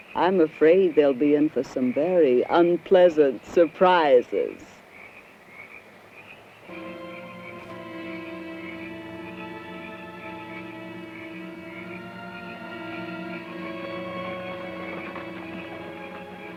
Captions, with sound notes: I'm afraid they'll be in for some very unpleasant surprises. (suspenseful music) (insects chirping)